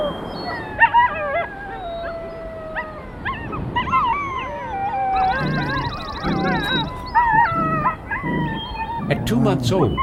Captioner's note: howling wolves